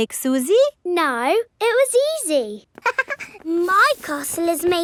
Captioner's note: chuckles